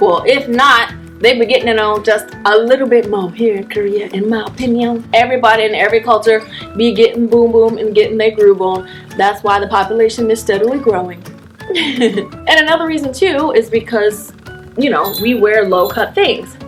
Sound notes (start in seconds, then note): 11.6 laughs cutely